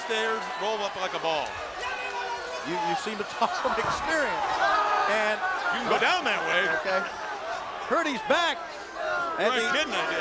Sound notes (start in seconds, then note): 3.3 crowd chatter